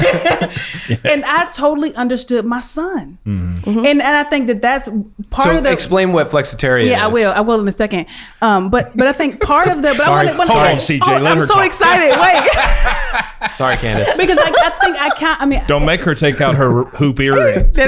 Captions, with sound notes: - (laughs) And I totally understood my son. And I think that that's part of the-- - So explain what flexitarian is. - Yeah, I will in a second. (everyone laughs) - Sorry, CJ, let her talk. - I'm so excited, wait. - Sorry, Candice. - Don't make her take out her hoop earrings.